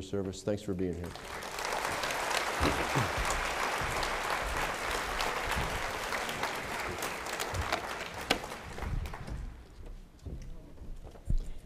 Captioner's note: applause